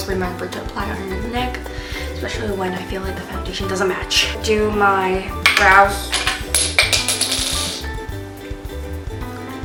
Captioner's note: dropped stuff